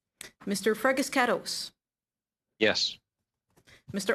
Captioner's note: speaking French